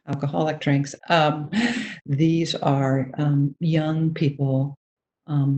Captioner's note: chuckles